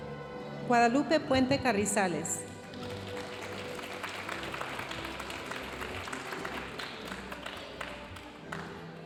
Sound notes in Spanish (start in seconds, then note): 2.8 aplausos de la audiencia